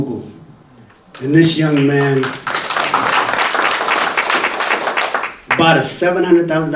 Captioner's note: audience applauding